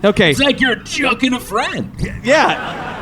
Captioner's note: happily